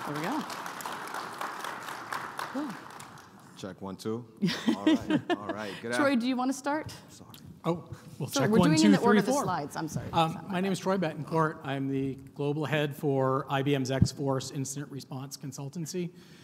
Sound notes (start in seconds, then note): 0.0 audience applauding; 4.4 laughing